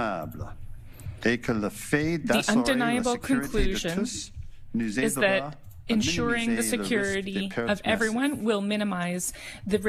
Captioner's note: speaking French